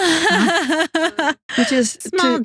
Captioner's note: laughing